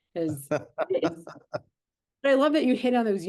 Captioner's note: laughing